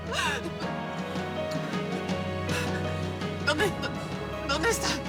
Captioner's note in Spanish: Sollozos